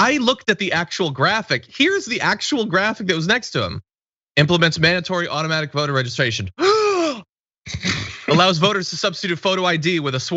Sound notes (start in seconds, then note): 7.7 laugh